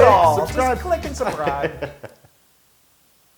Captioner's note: laugh